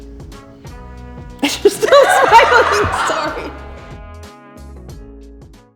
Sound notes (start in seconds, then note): 1.4 both giggle